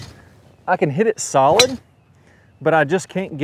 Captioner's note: club clacks